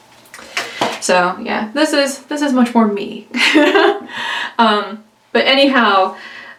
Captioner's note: laughs